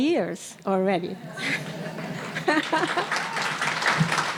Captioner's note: audience laughing; audience applauding